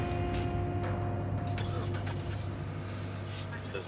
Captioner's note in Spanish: Ruido de motor